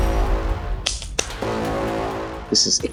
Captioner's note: clapping